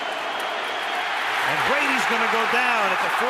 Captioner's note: cheering